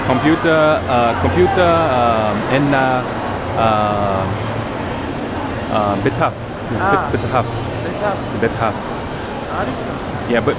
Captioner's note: amharic